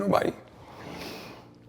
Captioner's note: sniffing